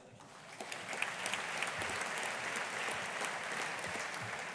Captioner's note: audience applauding